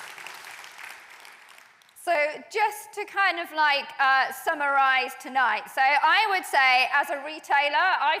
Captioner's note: applause